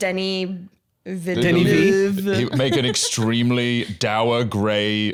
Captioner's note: muttering Frenchly